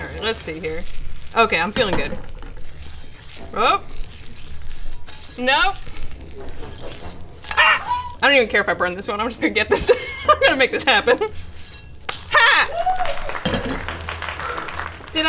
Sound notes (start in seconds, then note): 5.6 shrieking; 12.4 audience applauding